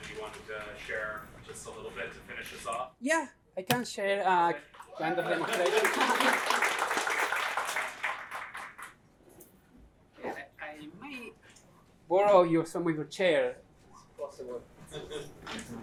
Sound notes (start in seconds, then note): 5.2 applause